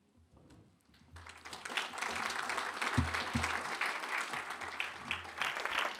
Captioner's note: applause